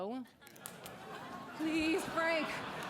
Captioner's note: fingers snap